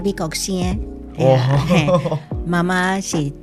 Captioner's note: Taiwanese